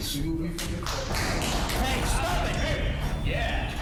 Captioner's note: applause